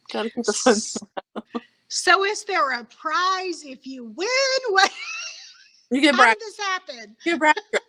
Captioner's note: laughing